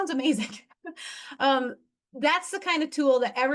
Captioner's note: laughing